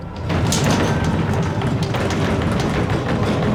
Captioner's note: thunderous banging sound